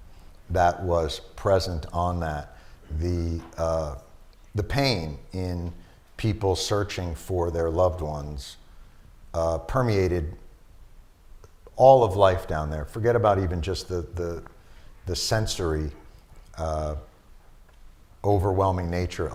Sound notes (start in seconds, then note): none